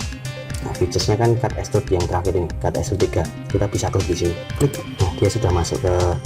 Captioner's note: click